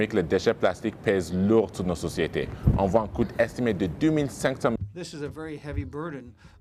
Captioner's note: speaking in French